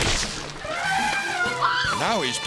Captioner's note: head squishing; elephant trumpets